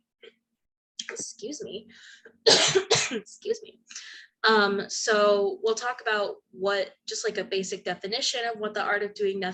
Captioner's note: coughs again